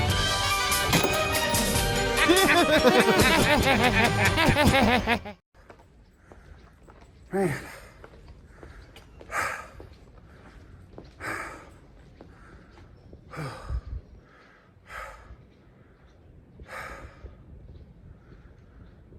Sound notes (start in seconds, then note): 0.3 laughs; 8.8 heavy breathing